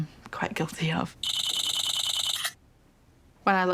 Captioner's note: camera shutter clicks